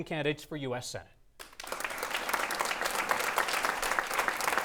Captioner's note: clapping